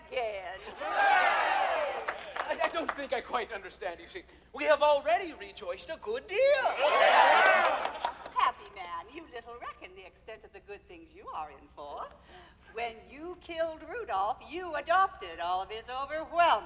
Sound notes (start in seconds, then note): 0.6 chorus cheers; 6.5 chorus cheers